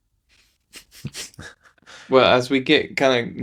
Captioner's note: laughing